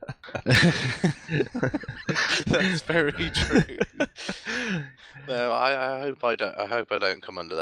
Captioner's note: laughing